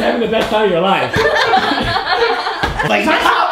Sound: laughter

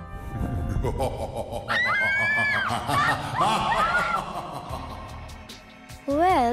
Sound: evil laugh

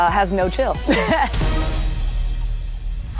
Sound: chuckles; upbeat music

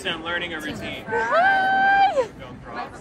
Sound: screams

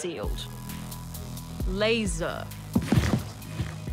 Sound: thump!

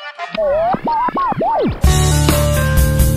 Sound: radio noise

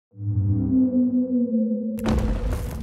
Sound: whale song; ice cracking

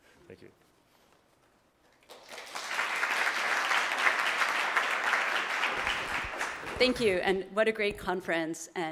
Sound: applause

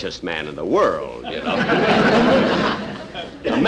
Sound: audience Laughing

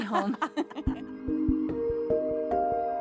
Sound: laughs

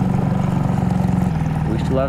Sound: boat motor hums

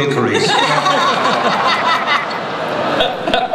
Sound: laughter

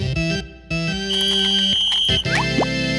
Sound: whistling

